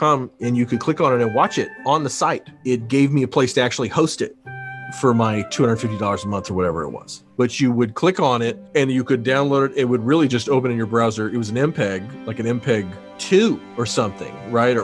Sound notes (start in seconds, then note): none